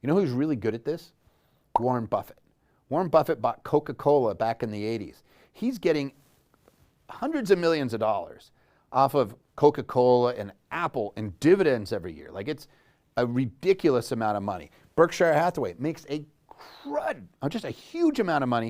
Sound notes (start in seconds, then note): 1.7 popping